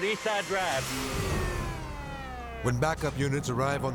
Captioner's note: siren blares